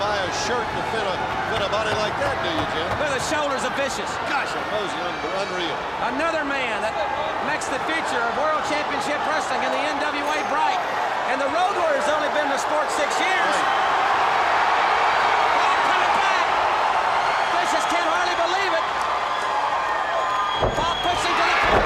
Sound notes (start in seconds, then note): 15.0 crowd cheering